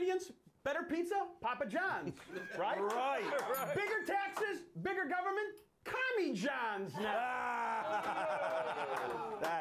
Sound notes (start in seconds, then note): 3.4 bell rings; 7.6 scattered applause